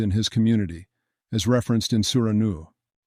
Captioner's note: Arabic